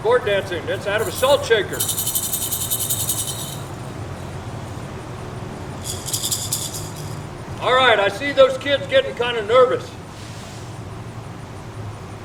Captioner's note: shakes rattle